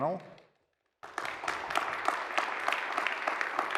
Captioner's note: applause